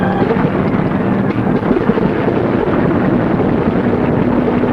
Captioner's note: plane engines roaring